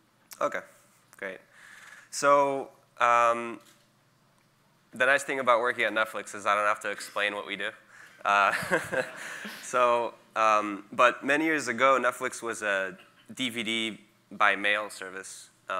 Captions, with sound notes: Okay, great. So the nice thing about working at Netflix is I don't have to explain what we do, (audience laughing) but many years ago Netflix was a DVD by mail service.